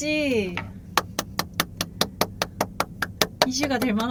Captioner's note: seal applause